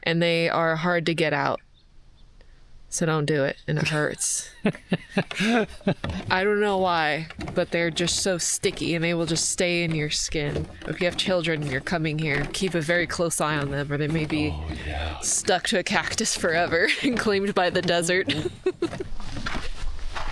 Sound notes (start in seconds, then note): 4.4 laughing; 18.0 laughing